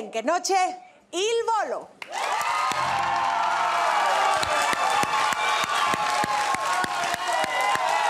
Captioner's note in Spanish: Público ovaciona